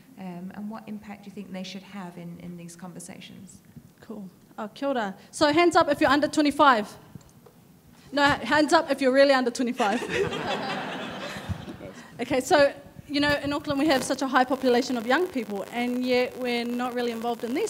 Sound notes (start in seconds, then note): 5.1 speaking in foreign language; 9.8 audience laughing